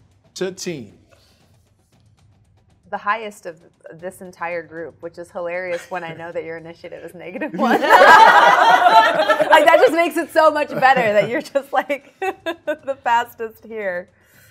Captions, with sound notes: - 13. - The highest of this entire group, which is hilarious when I know that your initiative is negative one. (everybody laughs) But that just makes it so much better that you're just like the fastest here.